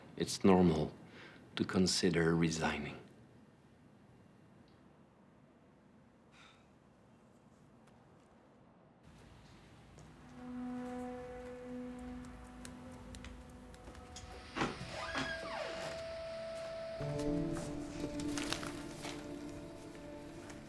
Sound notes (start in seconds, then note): 14.0 door squeaking; 17.4 suspenseful music